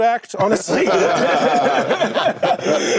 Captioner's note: laughter